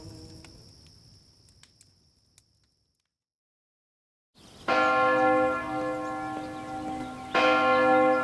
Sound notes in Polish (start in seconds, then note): 0.8 śpiew cichnie; 4.6 bicie dzwonów